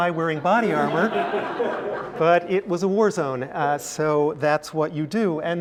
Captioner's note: laugh